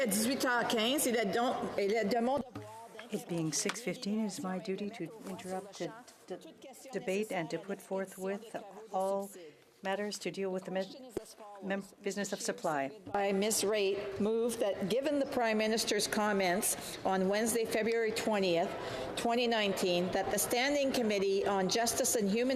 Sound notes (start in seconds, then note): 2.4 applause; 5.4 speaking French